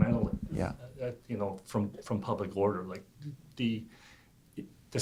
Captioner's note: voiceover